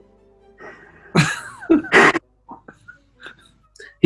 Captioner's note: giggling